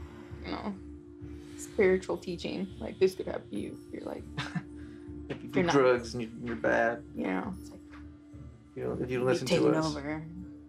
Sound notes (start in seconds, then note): 4.4 Val chuckles